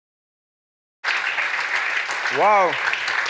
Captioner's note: applause